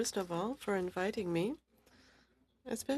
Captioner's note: speaking French